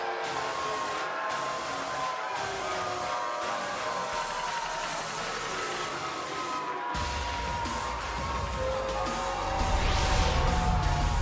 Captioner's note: cheers & boos